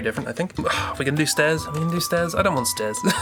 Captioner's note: sighs; laughs